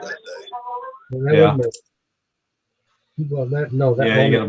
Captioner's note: speaking faintly